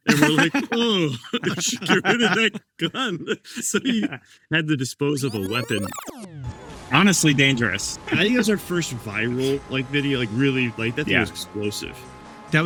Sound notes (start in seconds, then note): 5.8 graphic buzzes